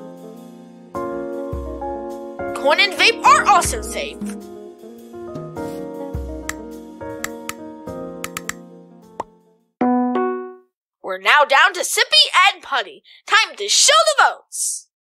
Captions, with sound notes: Coin and Vape are also safe! [remote clicking] We're now down to Sippy and Putty. Time to show the votes!